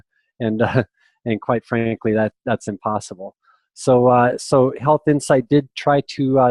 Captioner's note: laughter